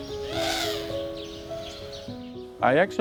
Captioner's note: birds chirping